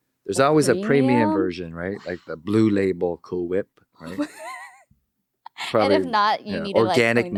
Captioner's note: laughing